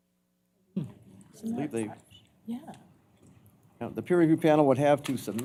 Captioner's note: indistinct chatter